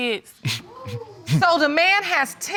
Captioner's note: chuckling; audience gasping